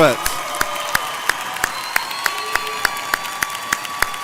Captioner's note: audience cheers